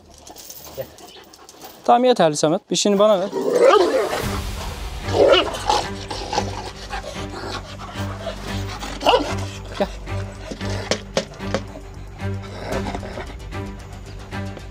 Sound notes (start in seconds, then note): 3.4 barking, growling sounds and tension-inducing music continue